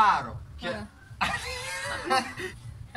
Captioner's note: laughter